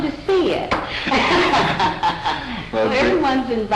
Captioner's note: laughter